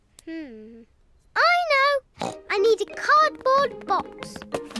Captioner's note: snorts